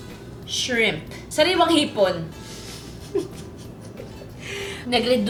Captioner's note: laughs